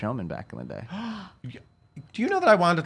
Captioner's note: gasps